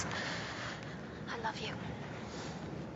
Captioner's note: inhales